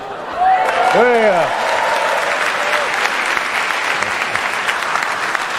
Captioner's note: cheering/Applause